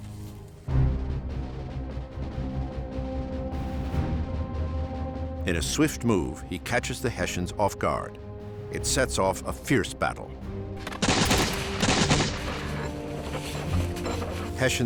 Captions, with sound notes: [tense music] In a swift move, he catches the Hessians off guard. It sets off a fierce battle. [gunshots firing]